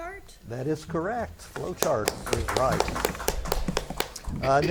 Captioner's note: spectators clap